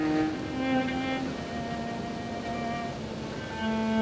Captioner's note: rushing water